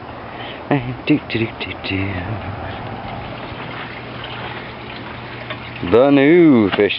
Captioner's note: humming